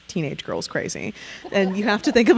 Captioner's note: audience laughing